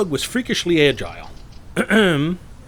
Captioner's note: clearing throat